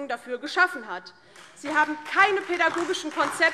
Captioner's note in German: Beifall DIE LINKE, SPD und Freie Demokraten